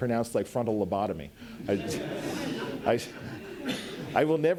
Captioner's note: audience laughs